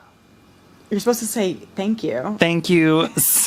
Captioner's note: laughs